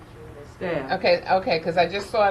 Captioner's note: person speaking off mic